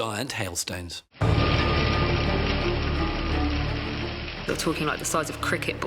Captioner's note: atmospheric music; hailstones clattering